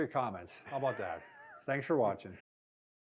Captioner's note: laughs